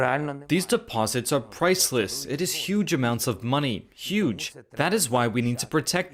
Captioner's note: speaking alternate language